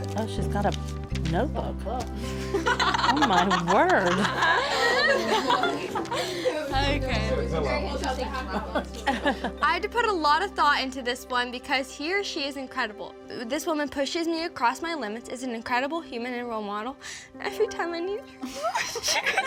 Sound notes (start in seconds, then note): 2.4 laughter; 5.8 laughter continues; 18.5 starts to cry then laughs when family laughs